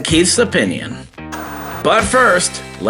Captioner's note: TV Static